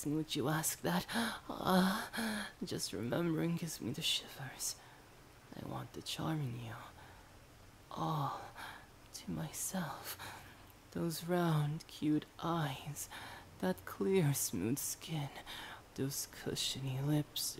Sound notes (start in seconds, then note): 2.1 gasp